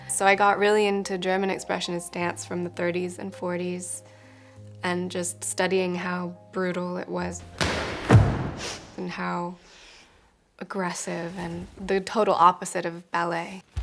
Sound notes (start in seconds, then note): 7.5 dancer thumping